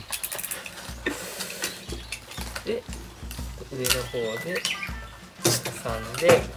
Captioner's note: laughs